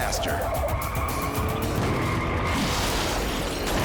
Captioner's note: tires screeching; thudding; glass shattering; thudding